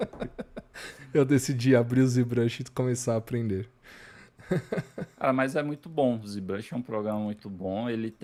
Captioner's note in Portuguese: risadas